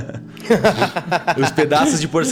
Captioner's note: laugh